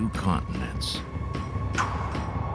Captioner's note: puffs